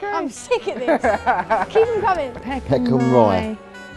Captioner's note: laughing